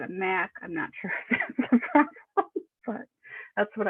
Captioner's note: laughing